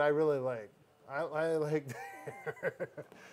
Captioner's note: laughing